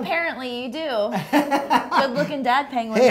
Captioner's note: laughs